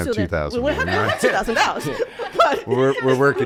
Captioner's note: hosts laughs